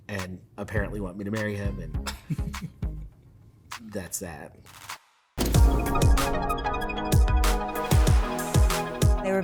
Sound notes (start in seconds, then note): 2.1 laughing; 5.4 lighthearted techno music